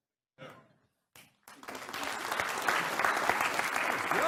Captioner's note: applause